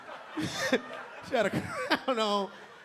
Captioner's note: audience laughing; LilRel laughing